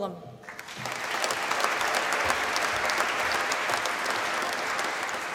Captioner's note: applause